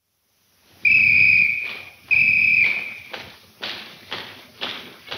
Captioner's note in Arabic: صافرة قوية